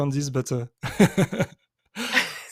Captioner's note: chuckles; laughs